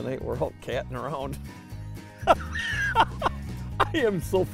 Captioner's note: laughing